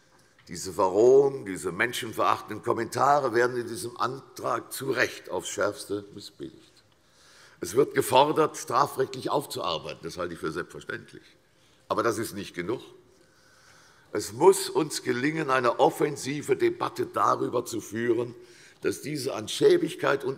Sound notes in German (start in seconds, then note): none